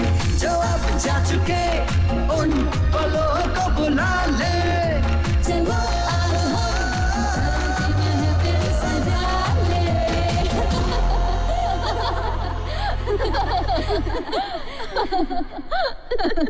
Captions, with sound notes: "The little moments that have gone by.." "..let's bring them back." "Let's prepare for tomorrow." [Laughs]